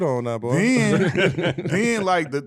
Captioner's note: laughing